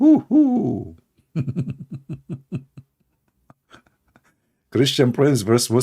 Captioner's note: Ketawa